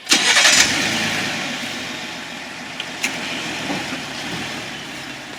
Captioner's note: engine turns over and revs